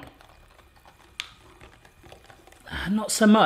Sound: cactus' sloshing

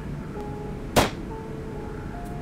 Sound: sound of gunshot

